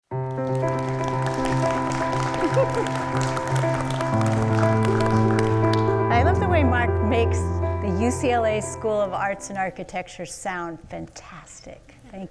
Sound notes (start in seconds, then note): 0.2 audience applauds; 2.3 laughs